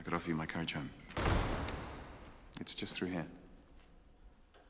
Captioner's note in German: Tür schließt